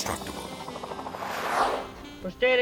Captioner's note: transition whips; gentle jazz music